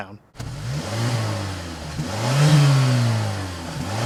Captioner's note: engine revving